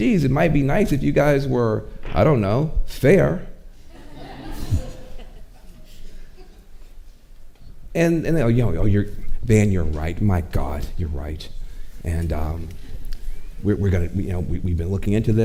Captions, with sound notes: "Geez, it might be nice if you guys were, "I don't know, fair." (audience chuckling) And they go, "Van, you're right, my god, you're right. "And we've been looking into this.